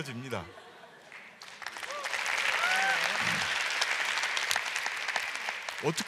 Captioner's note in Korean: 박수와 환호